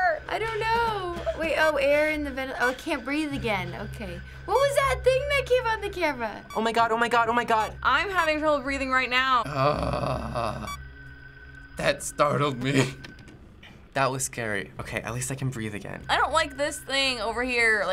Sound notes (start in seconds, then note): 9.4 moaning